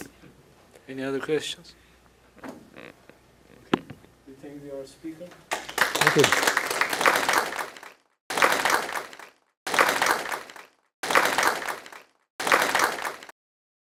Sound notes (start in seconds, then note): 6.0 applause